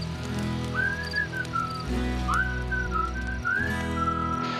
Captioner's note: whistling